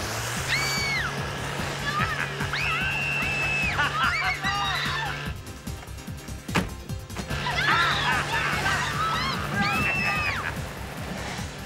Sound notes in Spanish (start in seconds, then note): 1.8 Laura grita; 2.3 niños gritando, hombres riendo